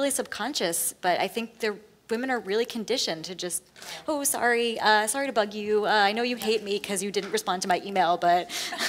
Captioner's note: laughs